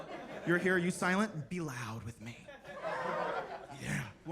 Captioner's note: attendees laughing; attendees laughing